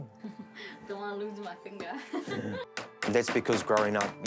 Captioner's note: laughs